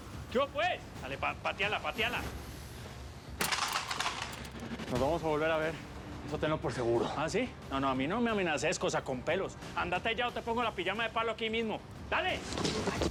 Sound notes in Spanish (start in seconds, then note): 3.4 ruido al patear la pistola; 12.9 ruido al correr álvaro